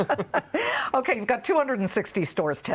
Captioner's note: laughter